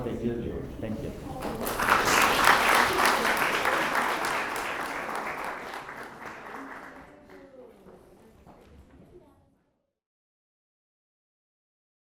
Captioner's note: applause